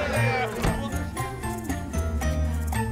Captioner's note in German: Männer jubeln; Tür schließt; unbeschwerte Musik